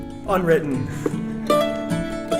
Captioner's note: laughs